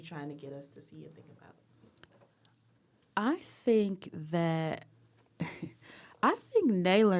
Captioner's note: laughs